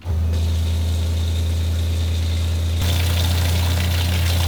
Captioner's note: water trickling